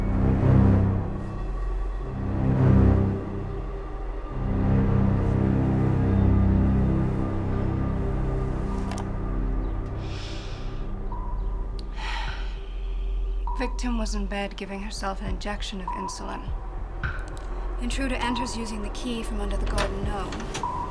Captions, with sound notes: (recorder clicking) (sighs) - Victim was in bed giving herself an injection of insulin. Intruder enters using the key from under the garden gnome.